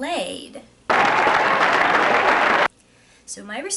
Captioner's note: applause sound!